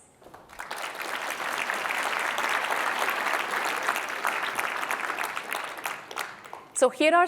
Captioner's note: applause